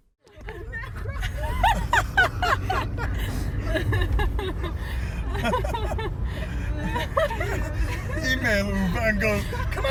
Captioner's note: hysterical laughter